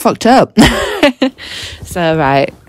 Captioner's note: girl laughs